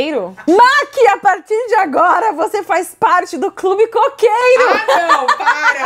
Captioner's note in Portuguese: risos